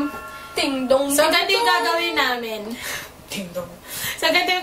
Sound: ding Dong

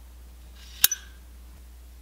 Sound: clink

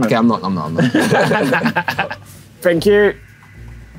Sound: both laughing

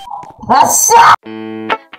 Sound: screaming

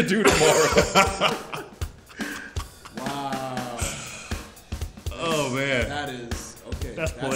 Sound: laugh

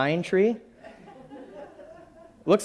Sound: laughing

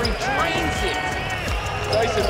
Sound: crowd cheering

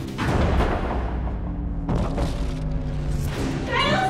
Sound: suspenseful music; door crashes

